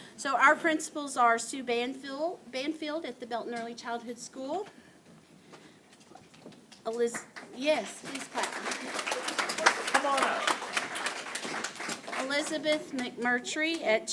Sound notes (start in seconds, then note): 7.1 applause; 7.9 applause continues